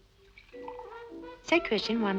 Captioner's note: liquid splashing